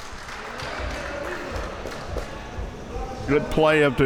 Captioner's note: audience clapping